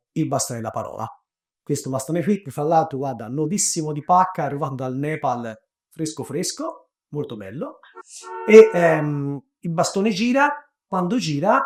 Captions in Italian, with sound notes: il bastone della parola questo bastone qui che fra l’altro guarda, nuovissimo di pacca, arrivato dal Nepal, fresco fresco, molto bello. [Clacson corriere] Il bastone gira... quando gira,